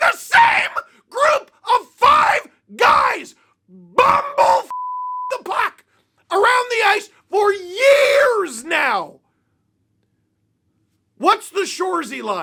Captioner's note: beep